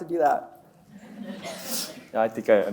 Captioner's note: audience laughs